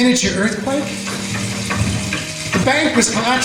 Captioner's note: shaking and rumbling